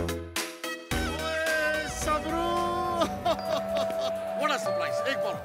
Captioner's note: Laughs